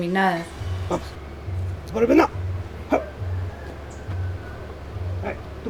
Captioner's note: puppet voices